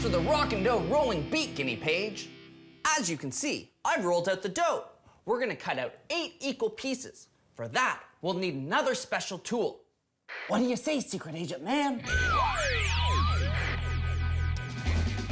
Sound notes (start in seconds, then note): 11.4 whispering